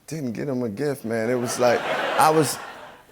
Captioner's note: laughter